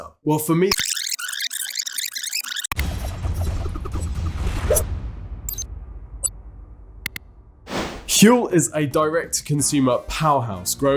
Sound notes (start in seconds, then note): 0.6 tape glitching; 2.7 dramatic music